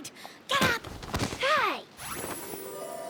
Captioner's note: thud!; tinkling